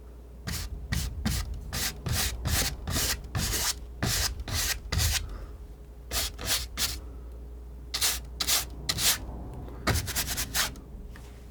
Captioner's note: scratching